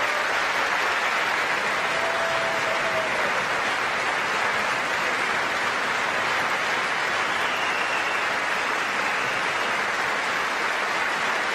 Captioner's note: applause